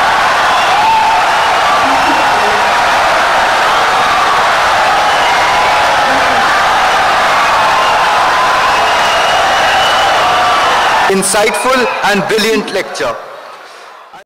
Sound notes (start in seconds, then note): 4.6 wild applause and cheering for 17 seconds